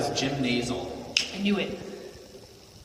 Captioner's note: snaps fingers